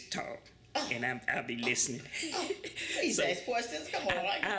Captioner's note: laughter